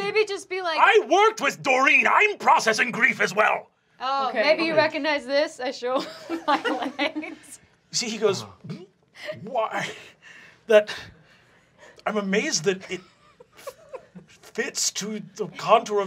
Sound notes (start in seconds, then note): 5.9 laughter; 9.1 sobs